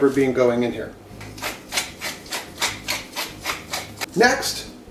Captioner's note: pepper grinder turns